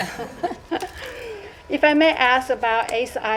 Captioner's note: laughter